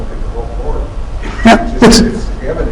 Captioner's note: laughter